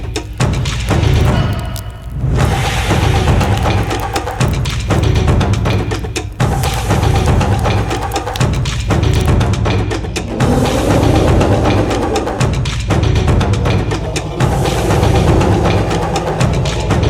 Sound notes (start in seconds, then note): 4.3 upbeat drumbeat music continues; 10.4 dinosaur growling